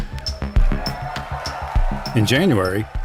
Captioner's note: crowd cheers